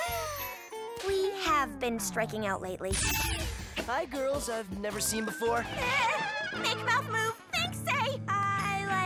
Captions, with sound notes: WE HAVE BEEN STRIKING OUT LATELY. HI GIRLS I'VE NEVER SEEN BEFORE. (MOANS) MAKE MOUTH MOVE, THINK SAY. I LIKE SOUP!